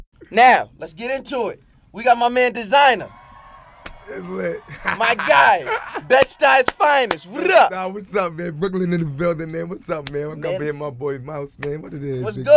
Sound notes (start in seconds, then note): 2.7 cheering; 4.1 laughing